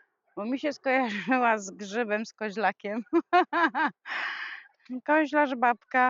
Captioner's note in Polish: śmiech